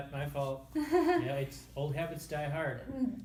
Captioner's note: chuckles